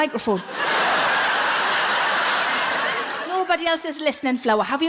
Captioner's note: audience laughs